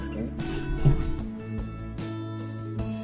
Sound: cat jump noise

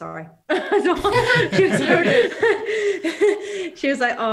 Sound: all laugh

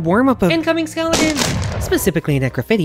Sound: sound of breaking wood

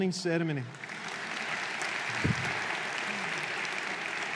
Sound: audience applauding

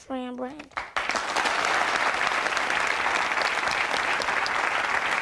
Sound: audience applauding

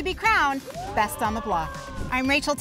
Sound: participants cheering

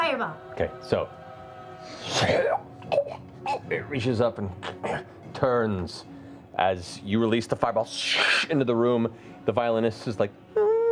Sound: choking

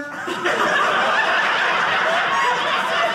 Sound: audience laughing

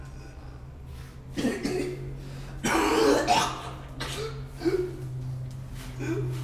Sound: gags and coughs

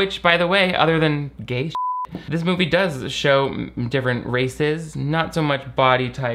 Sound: beep

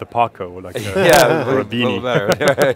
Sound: all laugh

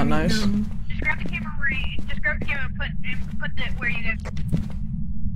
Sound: over Radio

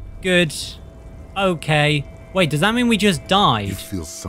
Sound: ear-ringing

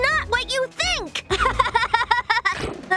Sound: laughing

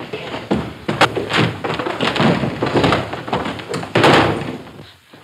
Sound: table clattering

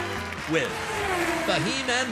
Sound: race car zooming

